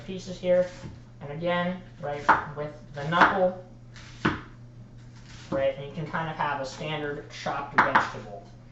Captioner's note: chopping sounds